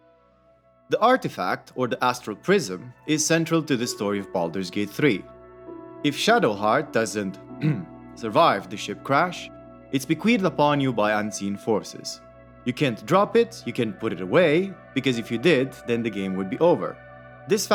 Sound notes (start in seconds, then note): 7.6 clears voice